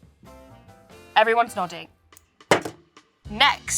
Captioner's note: camera taps tabletop